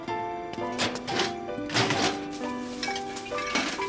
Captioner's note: metal clanging; glasses clinking